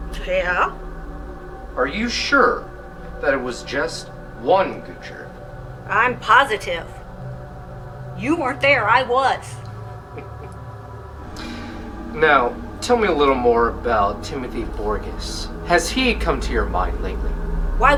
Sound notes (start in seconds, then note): 10.1 Abraham laughs